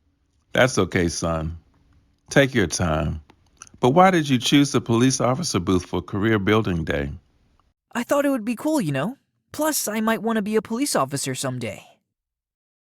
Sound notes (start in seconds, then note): none